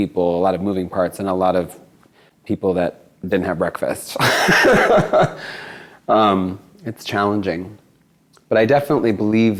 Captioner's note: laughs